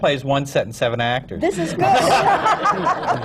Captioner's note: laughter